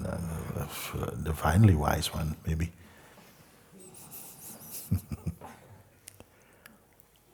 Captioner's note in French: petit rire